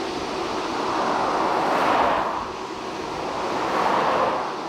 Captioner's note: cars whooshing